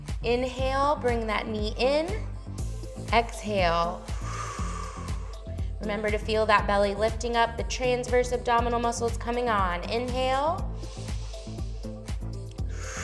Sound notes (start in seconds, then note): 4.0 exhales; 10.7 inhales; 12.8 exhales